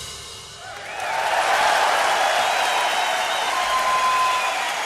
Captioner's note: crowd cheering